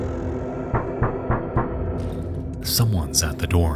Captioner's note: door sliding; fist knocking